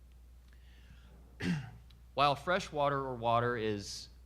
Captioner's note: clearing throat